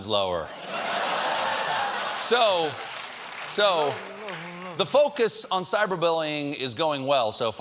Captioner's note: laughter; applause